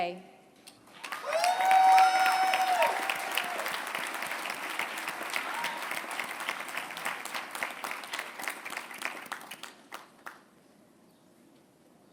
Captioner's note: applause